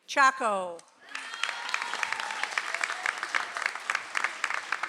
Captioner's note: audience applauds